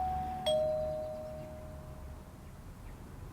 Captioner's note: doorbell rings